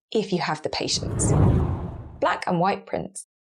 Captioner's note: whooshing air